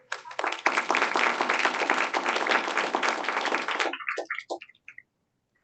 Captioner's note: applause